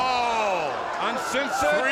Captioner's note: crowd cheering